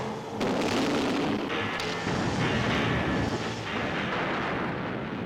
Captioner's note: explosions booming